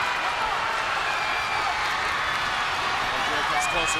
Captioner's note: crowd cheers